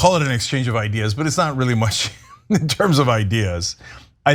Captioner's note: laugh